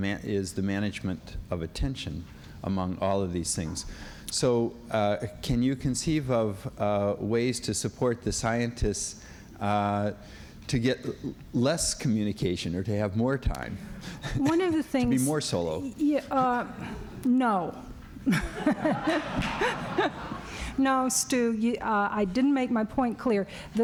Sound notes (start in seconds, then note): 15.9 laughs; 18.2 laughter